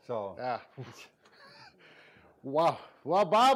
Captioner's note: laughing